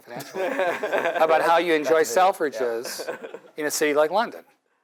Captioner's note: laugh